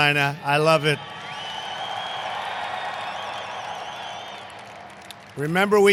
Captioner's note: applause